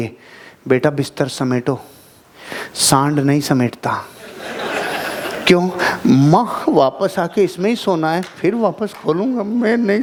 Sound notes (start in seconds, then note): 4.2 laughing